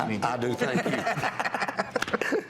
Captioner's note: laughter